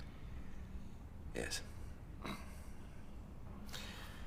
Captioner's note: grunts